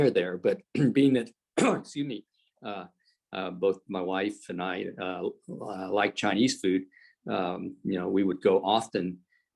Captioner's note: coughs